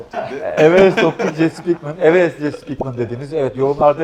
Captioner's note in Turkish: kahkaha